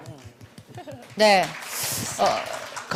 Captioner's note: claps